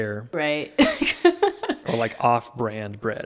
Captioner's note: laughing